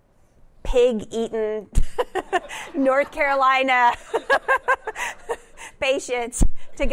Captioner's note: laughter